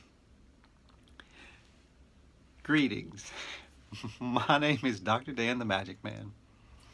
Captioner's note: chuckles